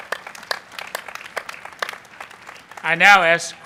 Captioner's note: applause